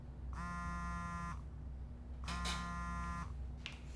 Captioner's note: phone vibrates